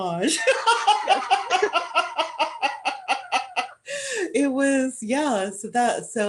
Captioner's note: laughter